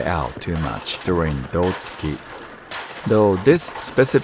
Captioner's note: speaking in foreign language